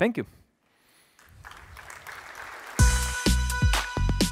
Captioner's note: applause